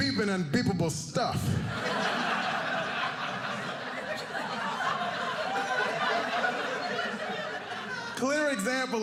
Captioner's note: audience laughing